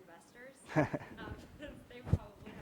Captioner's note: laugh